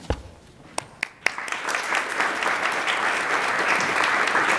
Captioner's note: attendees applaud